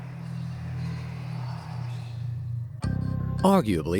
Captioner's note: eerie whispering